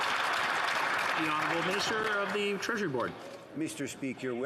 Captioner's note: some Applause